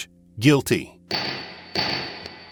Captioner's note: gavel pounds